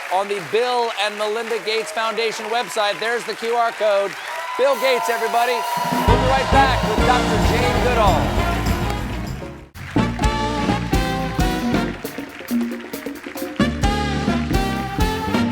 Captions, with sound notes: ON THE BILL AND MELINDA GATES FOUNDATION WEBSITE. BILL GATES, EVERYBODY. WE'LL BE RIGHT BACK WITH JANE GOODALL. [CHEERS AND APPLAUSE]